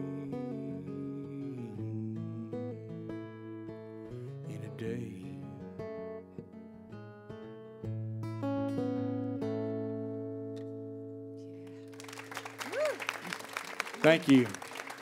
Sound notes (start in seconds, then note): 9.9 applause